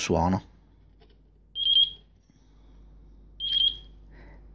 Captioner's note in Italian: beep beep